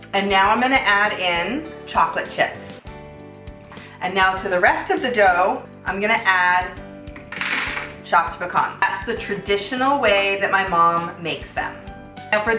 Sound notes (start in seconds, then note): 7.2 pecans clattering